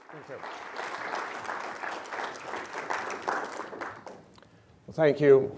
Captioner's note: applause and cheering